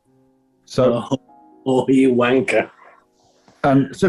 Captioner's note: chortling